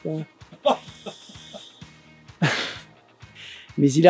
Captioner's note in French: Rires outrés